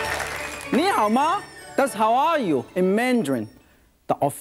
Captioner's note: in foreign language